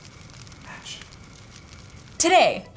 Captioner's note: whispers